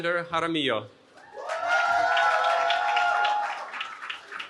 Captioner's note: cheering